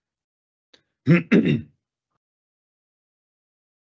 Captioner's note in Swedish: Harklar sig